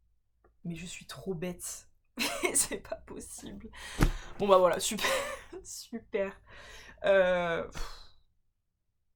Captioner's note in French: rires